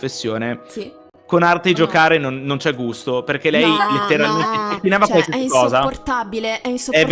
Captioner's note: laughing in the BG